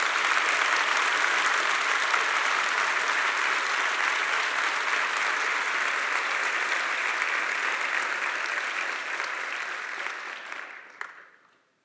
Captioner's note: applause